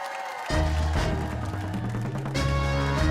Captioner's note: cheers and applause